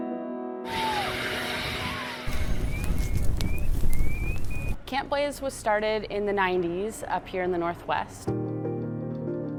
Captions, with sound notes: (water whooshing) (fire flickering) - Camp Blaze was started in the nineties, up here in the Northwest.